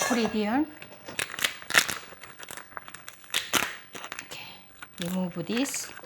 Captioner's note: crab cracking